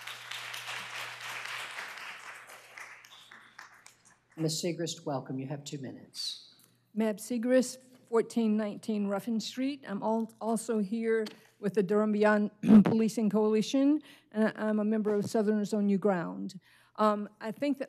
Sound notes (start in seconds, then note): 3.8 applause